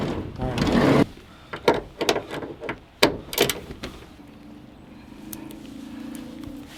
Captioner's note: ratchet hitting metal door; distant car engine